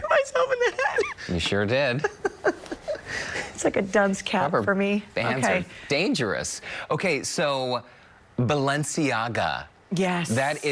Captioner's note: laughter